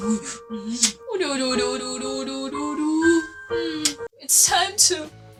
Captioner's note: kiss; kiss